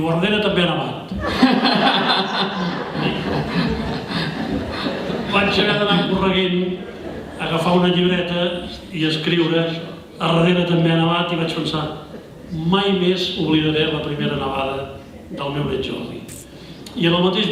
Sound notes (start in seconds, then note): 1.1 laughter